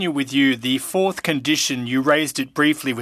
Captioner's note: speaking French